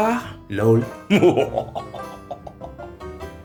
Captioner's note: evil laugh